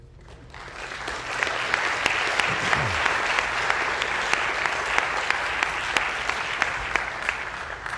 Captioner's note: applause